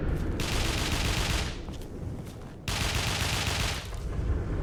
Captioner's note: Sporadic gunfire alerts Skulls. Clearly a raider is still alive and in battle